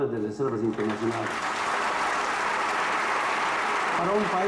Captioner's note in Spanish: Aplausos